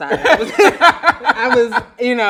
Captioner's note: laughs loudly